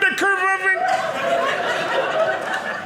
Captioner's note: audience laughing